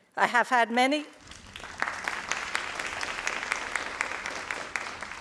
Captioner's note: crowd applauding